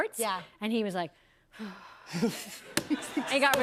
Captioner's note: sighs